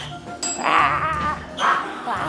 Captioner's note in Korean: 경쾌한 종소리